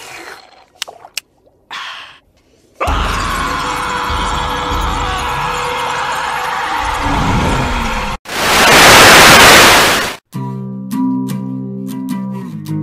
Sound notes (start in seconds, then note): 2.8 continued screaming